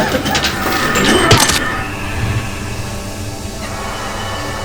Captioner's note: blade slicing